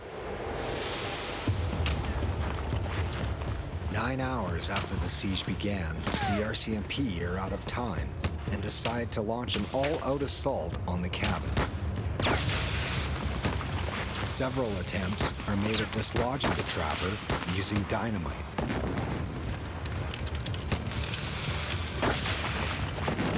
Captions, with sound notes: (suspenseful music) Nine hours after the siege began, the RCMP are out of time and decide to launch an all out assault on the cabin. (guns firing) Several attempts are made at dislodging the trapper using dynamite. (exploding) (guns firing)